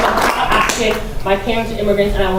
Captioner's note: applause